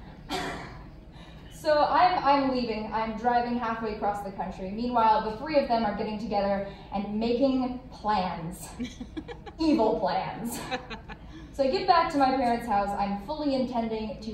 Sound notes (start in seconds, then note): 8.7 laughs; 10.5 more laugh